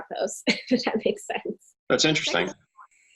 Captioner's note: chuckling